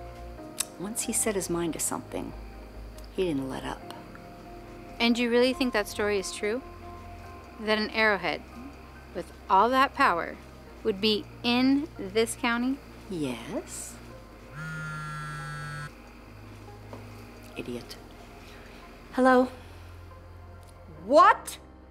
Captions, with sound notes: Once he set his mind to something he didn't let up. And you really think that story is true? That an arrowhead with all that power would be in this county? Yes. [buzzing] Idiot. Hello? What?